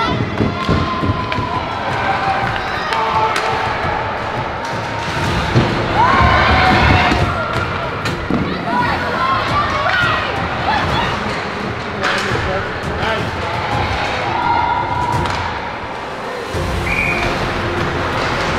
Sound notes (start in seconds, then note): 3.5 rising music; 10.2 cheering